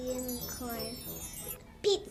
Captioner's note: chimes